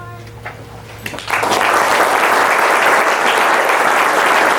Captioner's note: audience claps